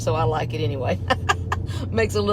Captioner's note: chuckles